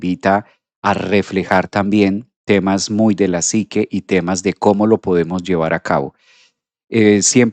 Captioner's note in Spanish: resoplido